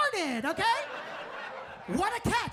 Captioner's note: audience laughs